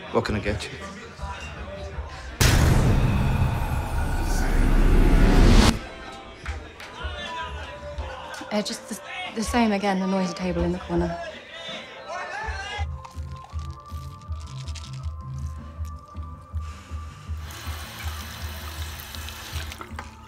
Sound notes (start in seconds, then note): 4.1 voices whispering; 12.9 pills rattle; 17.6 water rushing